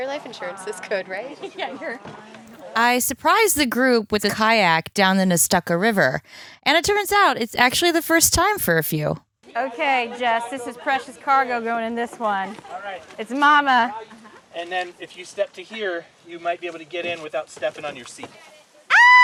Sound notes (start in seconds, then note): 2.2 laughs